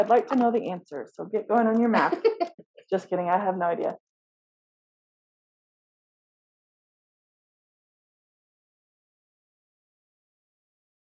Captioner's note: laughs